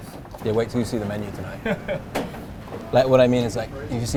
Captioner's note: laughs